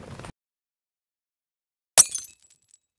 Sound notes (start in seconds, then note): 2.0 glass shatters